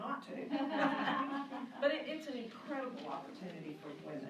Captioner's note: laughing